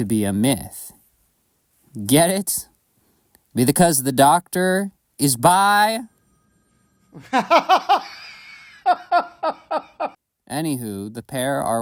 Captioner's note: laughs hysterically, screams robotically